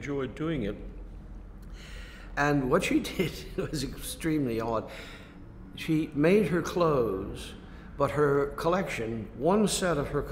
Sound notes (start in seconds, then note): 2.4 laughs